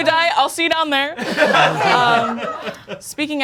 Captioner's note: audience laughing